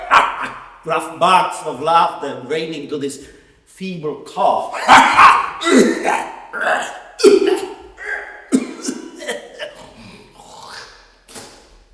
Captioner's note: more coughs